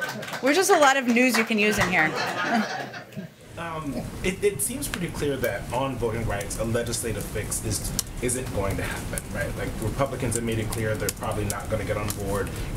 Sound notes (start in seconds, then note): 1.9 laughter